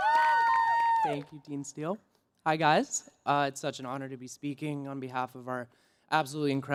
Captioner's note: cheers and Applause